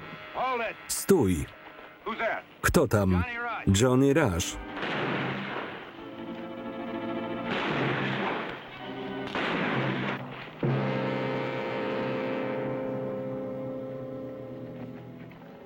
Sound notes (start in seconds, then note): 4.6 gunfire